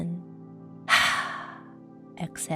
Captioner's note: heavy exhaling